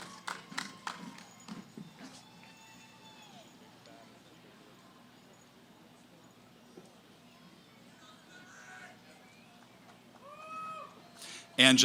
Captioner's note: cheering; background conversations